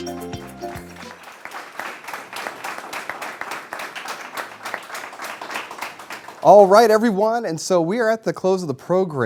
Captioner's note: applause